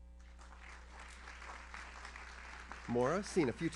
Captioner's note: audience applauds